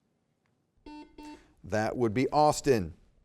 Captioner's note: buzzer beeping